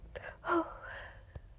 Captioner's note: sigh